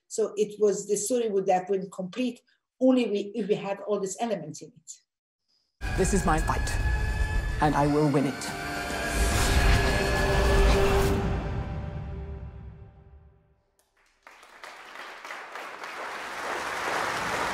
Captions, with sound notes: So, the story would have been complete only if we have all these elements in it. - This is my fight and I will win it. (exciting music) (crowd applauds)